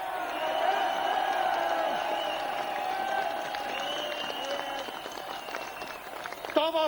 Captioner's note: cheering